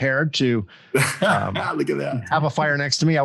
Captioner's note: laughs